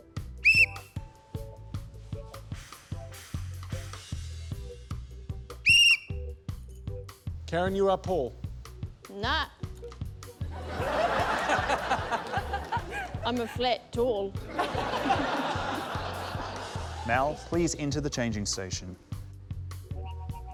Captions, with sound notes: (BLOWS WHISTLE) (BLOWS WHISTLE) Karen, you are Paul. Nah. (LAUGHTER) I'm a flat tall. Mel, please enter the changing station.